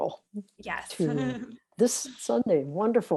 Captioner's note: laughs